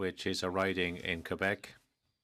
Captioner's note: speaking French